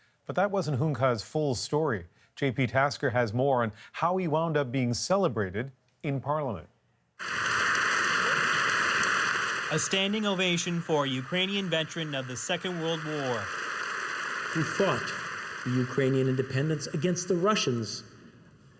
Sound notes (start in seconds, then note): 11.1 applause